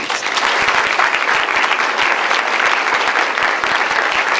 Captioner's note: applause